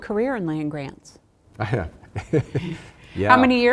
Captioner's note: laughs